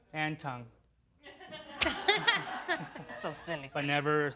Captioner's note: laughing